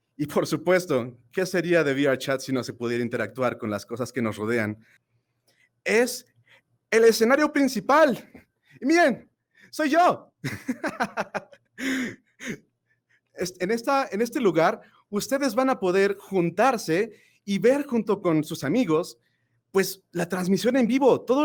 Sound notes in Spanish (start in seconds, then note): 10.4 risas